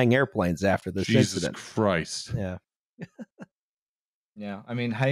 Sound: laughing quietly

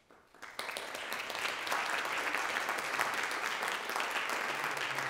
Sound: audience applauding

